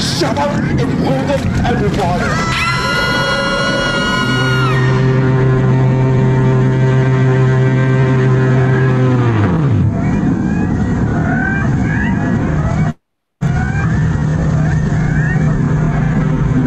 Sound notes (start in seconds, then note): 0.6 in monsterous voice; 2.1 the campers screaming; 5.0 distorted fog horn; 10.4 seagulls